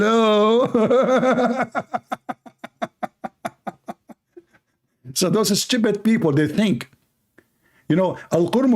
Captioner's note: Ketawa